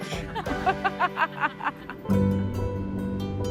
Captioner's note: laughter